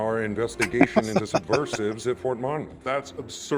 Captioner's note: laughing